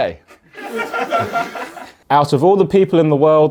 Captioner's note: audience laughs